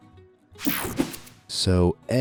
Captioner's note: air whooshing